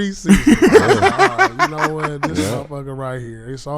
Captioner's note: laughing